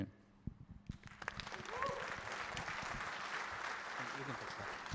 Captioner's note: applause